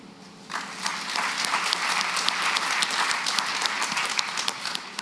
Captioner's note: applause